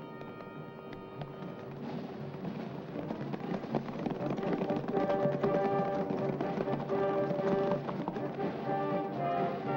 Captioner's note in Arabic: موسيقى درامية; ضربات حوافر; موسيقى درامية